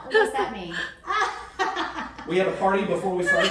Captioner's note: laughing